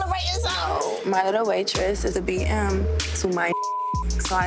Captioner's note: beep